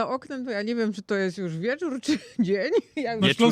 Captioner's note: śmiech